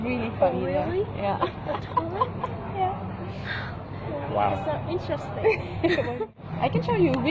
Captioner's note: laugh